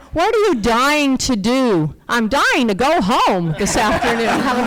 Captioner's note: laughter